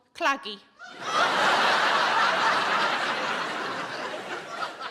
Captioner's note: audience laughing